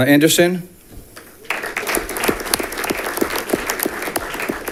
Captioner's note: audience clapping